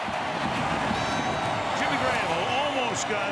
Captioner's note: cheering; firecrackers bursting